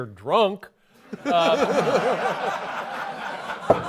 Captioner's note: laughter